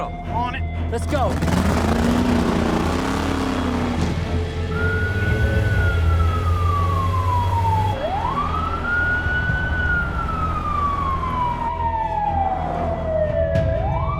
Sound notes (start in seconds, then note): 2.0 engine rumbling; 5.0 police siren wailing; 8.3 dramatic music